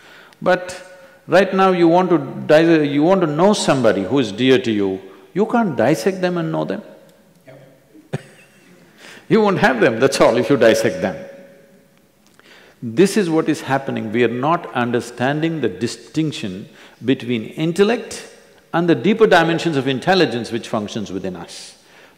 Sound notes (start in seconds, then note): 8.0 laughs